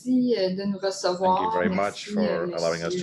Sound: speaking in French

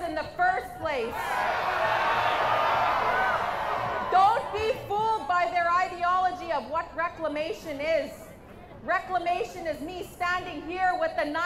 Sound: crowd jeers; crowd jeers

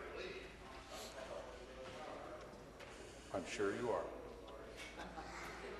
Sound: conversation din

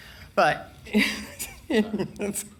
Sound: laughs

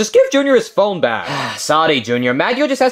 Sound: sighs

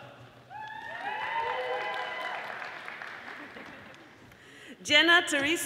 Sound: audience applauding

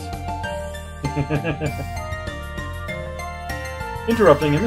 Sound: chuckles

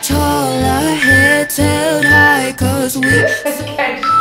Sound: timer beeping

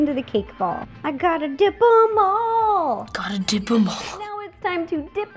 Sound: snorting

